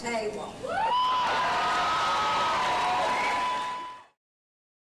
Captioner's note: audience cheers and applause